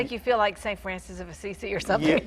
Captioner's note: laughs